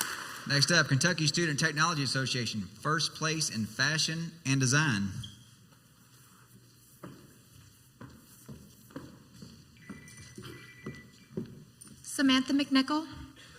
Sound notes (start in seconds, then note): 7.3 high heeled footsteps walking onto the stage; 9.7 phone ringtone in the background